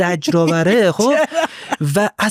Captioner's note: laughs